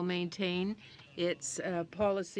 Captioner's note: speaking French